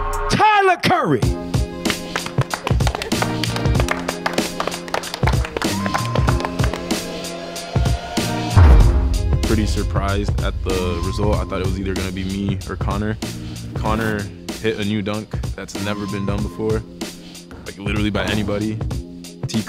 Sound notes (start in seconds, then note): 1.4 upbeat music; 1.7 hands clapping; 8.7 ball dunking